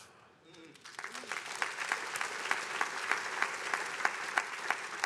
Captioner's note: attendees applauding